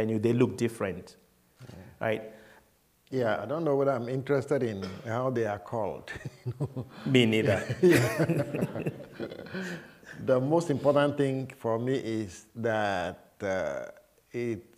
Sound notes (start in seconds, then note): 7.3 laughter